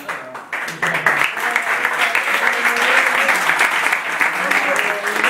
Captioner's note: applause